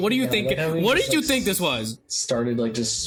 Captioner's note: mocking